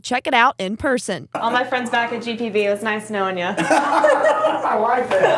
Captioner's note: laughter